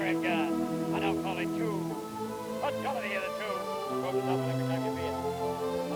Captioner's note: auctioneer chanting